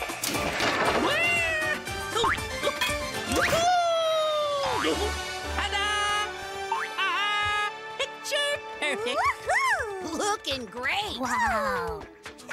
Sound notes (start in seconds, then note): 1.8 grunting